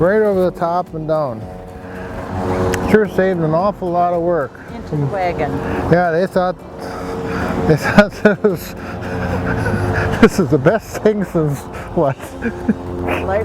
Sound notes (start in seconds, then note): 9.6 laughs